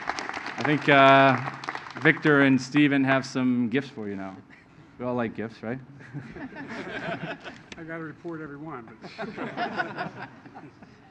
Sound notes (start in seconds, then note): 6.0 laughter; 9.0 laughter